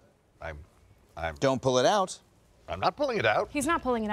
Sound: none

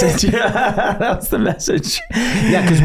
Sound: all laughing

